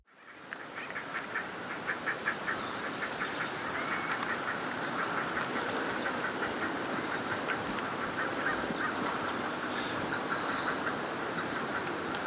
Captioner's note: various bird sounds